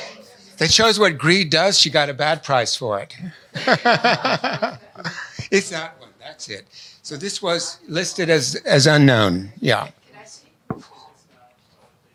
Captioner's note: laughs